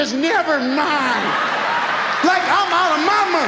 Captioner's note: audience laughs